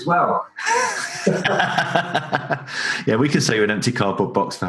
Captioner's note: both laugh